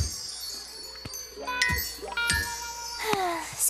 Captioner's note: sigh